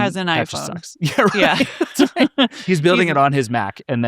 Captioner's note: laughing